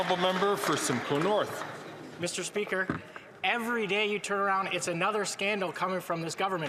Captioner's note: some Applause